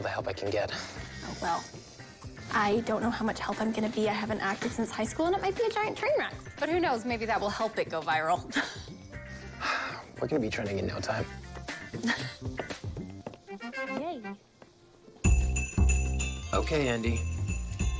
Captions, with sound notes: Well, I don't know how much help I'm going to be. I I haven't acted since high scl and it might be a giant train w. But who knknows, maybe that will help it go vira. We're gonna bebe trending in no. [chuckles] Yay. Okay, Andie, whenever you're re.